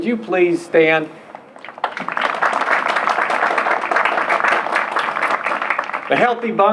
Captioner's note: applause